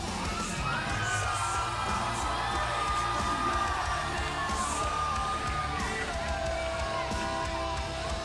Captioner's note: crowd cheering